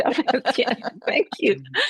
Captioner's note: laughter